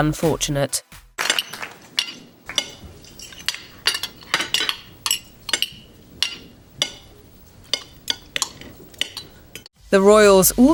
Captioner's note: cutlery noises